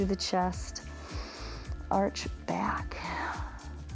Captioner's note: inhales